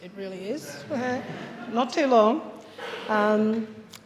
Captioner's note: audience chuckles